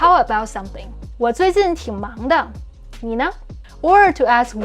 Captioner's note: speaking in Mandarin